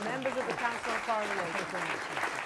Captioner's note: applause